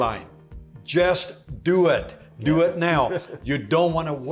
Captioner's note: laughing